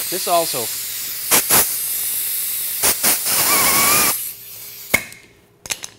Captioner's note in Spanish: Soplando aire